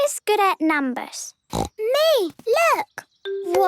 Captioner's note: snorting